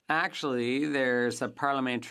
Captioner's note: speaking French